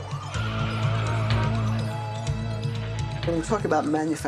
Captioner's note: dramatic music; sirens wailing